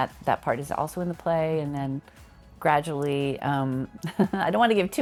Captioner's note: laughs